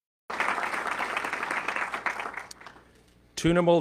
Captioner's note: audience clapping